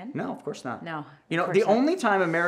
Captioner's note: heavy sigh